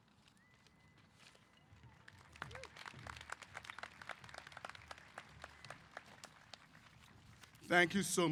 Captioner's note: applause